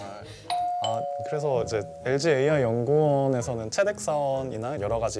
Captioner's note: ding Dong